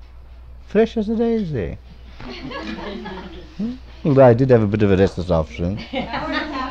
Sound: laughter

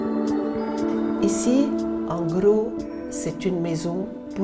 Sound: speaking French

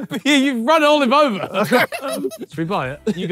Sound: all ohing

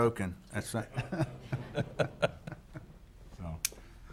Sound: chuckling

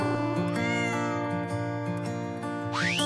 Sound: cat Meowing

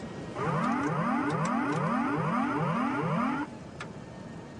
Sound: autopilot disconnect warning horn

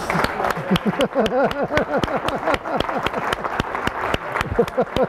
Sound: laughing

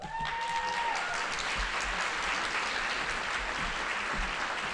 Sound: audience applauding

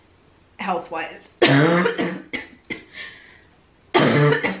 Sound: coughing

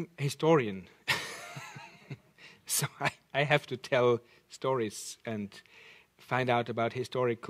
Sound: chuckles

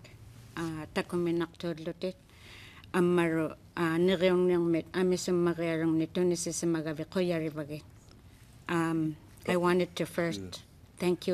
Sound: speaking Alternate Language

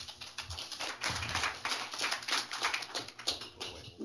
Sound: applause

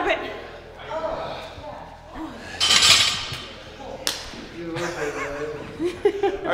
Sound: laugh

